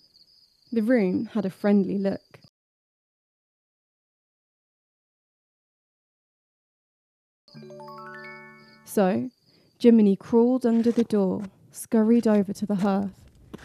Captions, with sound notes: The room had a friendly look. [silence] [chiming sound] -Jiminy crawled under the door, scurried over to the hearth,